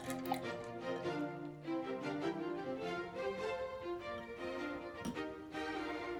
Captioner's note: gurgling~